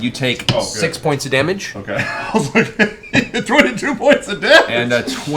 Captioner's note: laughs